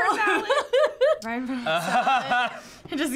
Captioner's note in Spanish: risas